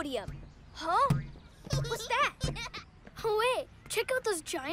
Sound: giggling

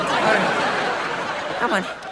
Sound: laughing

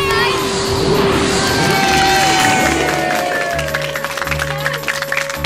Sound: cheering; cheers

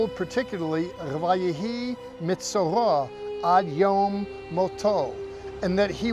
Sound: speaking in Hebrew

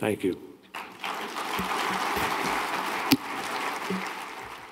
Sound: applause

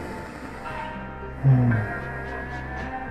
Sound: sigh

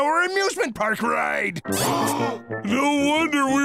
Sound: gasping

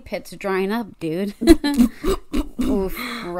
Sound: laughs

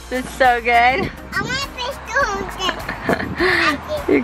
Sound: babbles

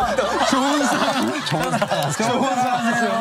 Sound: laughing

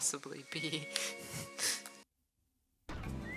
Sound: giggle; chortle

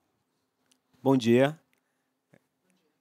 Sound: non-english speech

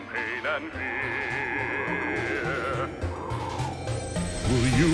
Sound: wind blowing

